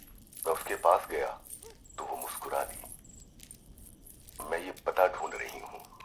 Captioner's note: radio